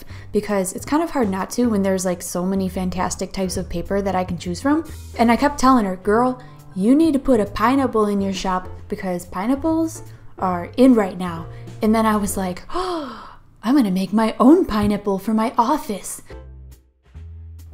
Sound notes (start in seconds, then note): 12.7 gasp!